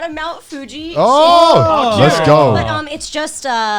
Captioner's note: guys shouting excitedly